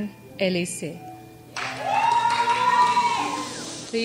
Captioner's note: crowd cheers and shushes